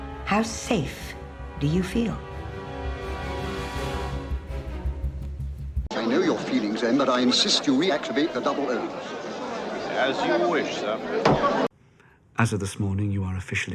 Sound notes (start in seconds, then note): 8.8 crowd talking; 11.2 thud